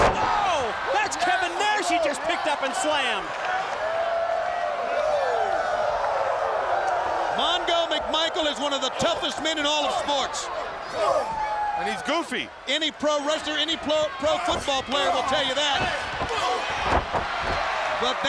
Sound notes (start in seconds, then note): 5.3 audience cheering